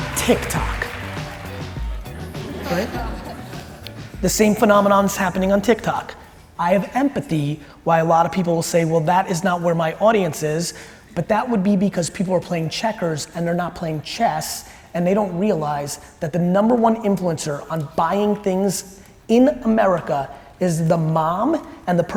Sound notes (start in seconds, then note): 0.0 audience applauds; 2.5 audience laughs